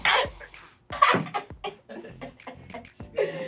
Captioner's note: devious laughter